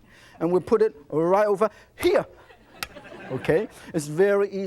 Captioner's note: audience laughs